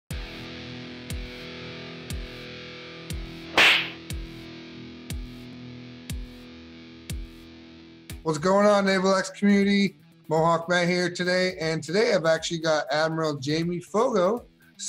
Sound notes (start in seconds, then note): 0.6 downbeat music; 3.5 air whips